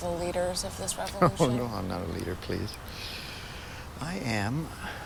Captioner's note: chuckles